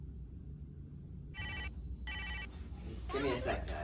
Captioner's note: phone rings